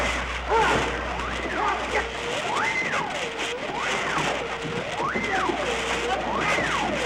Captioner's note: men yelling continues; siren blaring continues